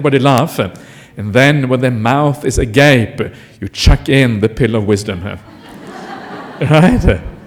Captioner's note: laughter